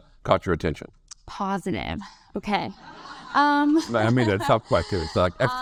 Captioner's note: audience laugh